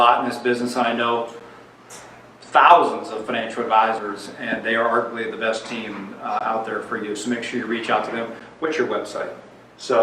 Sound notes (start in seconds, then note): none